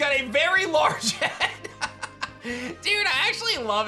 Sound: laughs

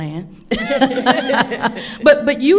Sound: all laughing

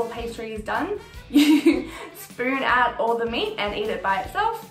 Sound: laughs

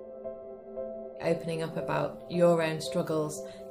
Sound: voiceover

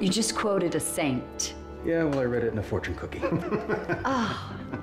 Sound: laughing

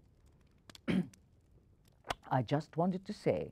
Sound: clearing throat

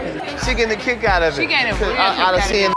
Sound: beep

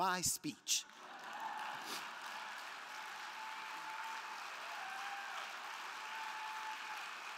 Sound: crowd clapping; crowd cheering

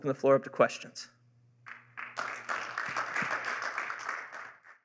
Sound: applause

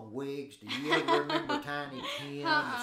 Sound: chuckling

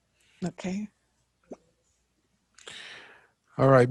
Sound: inhales sharply

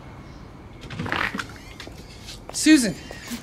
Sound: door opens

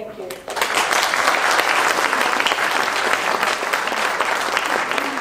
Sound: applause

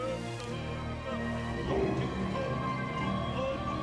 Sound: non-english speech

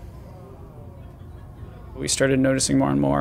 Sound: people murmuring

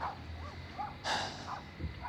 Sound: sigh

